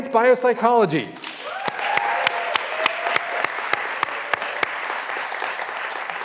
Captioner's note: graduands cheering and applauding